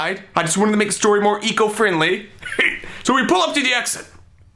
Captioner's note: laughs